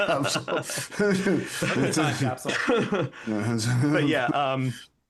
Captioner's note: laughing